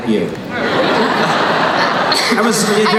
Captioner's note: laughing